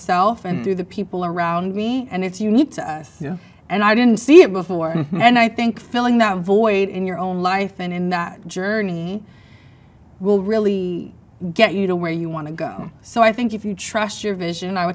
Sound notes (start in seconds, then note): 4.8 man chuckles